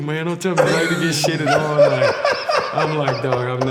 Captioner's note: laughs loudly